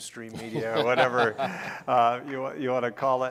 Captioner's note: laughing